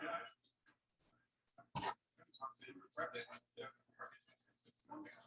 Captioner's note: people chattering indistinctly